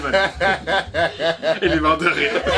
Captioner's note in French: Fou rire